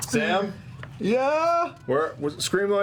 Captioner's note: shouting